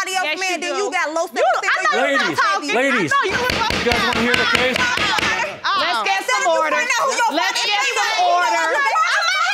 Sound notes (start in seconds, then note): 3.2 banging; 6.0 women screaming